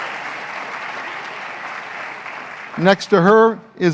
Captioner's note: applause